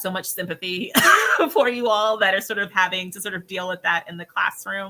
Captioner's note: laughs